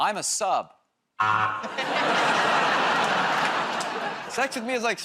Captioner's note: laughter, buzzer